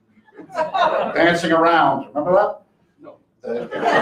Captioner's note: laughter